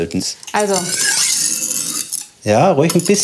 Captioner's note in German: Schleifgeräusch